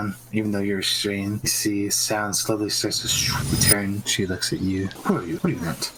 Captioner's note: shoop